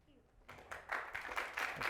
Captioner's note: audience applauds